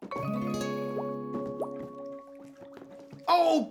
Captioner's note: bubbling